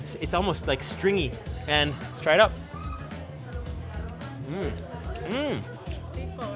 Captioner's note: moans